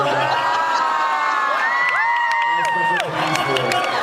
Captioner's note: cheers, applauds